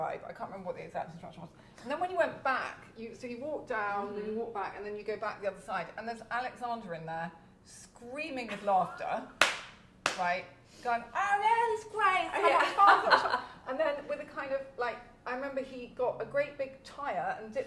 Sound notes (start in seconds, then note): 9.4 clapping